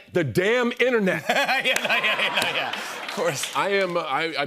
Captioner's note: laughs